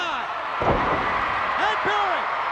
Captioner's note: audience cheers